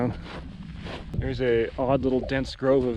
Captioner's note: footsteps thumping